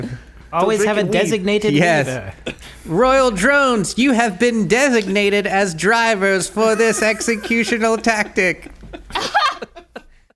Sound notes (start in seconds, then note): 9.2 laughs